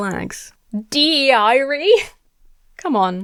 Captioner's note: laughs